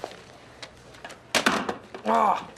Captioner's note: banging of phone